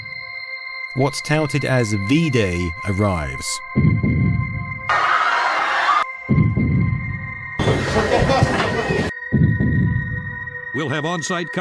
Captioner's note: screaming